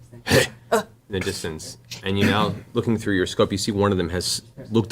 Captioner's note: grunt